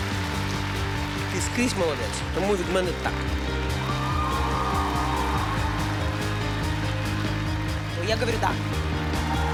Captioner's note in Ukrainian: оплески